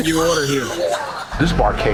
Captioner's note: everyone laughing